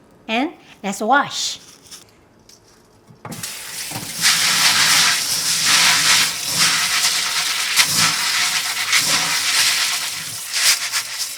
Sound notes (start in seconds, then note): 3.4 water rushes; 4.6 beans rustle loudly